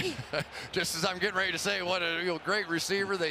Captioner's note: laughs